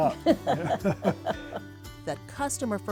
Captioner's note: both laughing